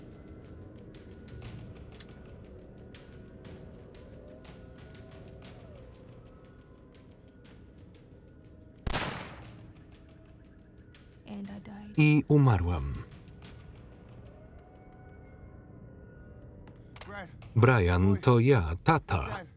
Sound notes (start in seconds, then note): 8.8 gun firing